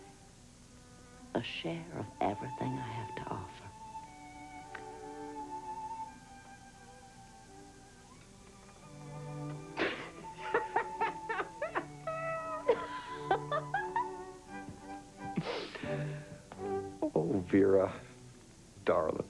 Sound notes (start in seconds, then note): 9.7 laughing